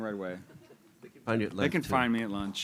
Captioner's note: laughter